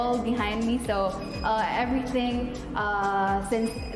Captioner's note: buzzer blares